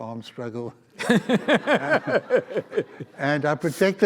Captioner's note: audience laughs